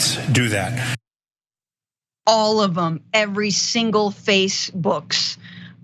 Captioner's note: laugh